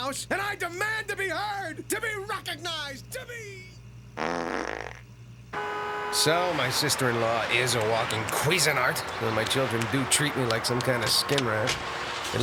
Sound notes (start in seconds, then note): 1.8 voice fading; 4.1 breaking wind